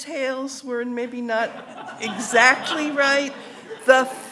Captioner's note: audience laughing